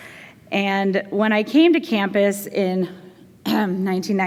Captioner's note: jokingly clearing throat